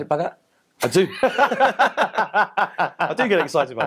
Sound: laughter

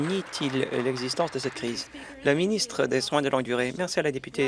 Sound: applause

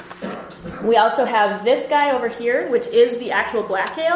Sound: voiceover

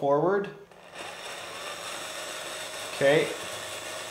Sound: RC truck whirring

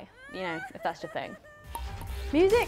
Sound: woman sobbing; upbeat music; ball pinging

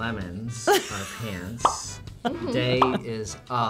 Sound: chuckles; bubble pops

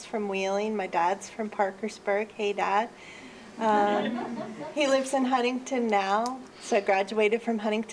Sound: laughs

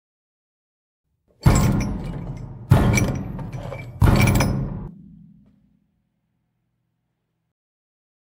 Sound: knocking

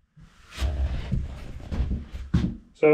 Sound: footsteps

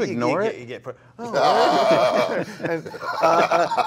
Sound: laughing

